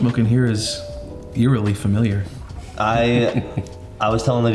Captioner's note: chuckles